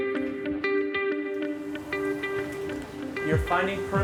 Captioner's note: traffic sounds